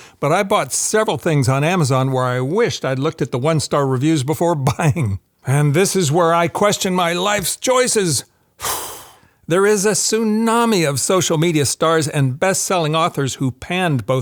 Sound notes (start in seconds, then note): 8.6 sighs